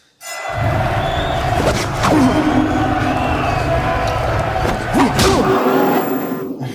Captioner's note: bell dinging; crowd cheering